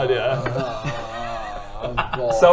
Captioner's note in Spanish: quejándose